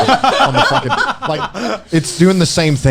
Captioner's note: laughing